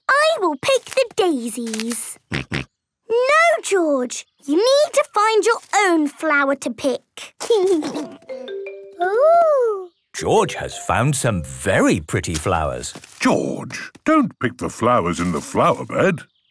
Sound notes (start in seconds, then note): 2.0 George snorting; 7.6 giggling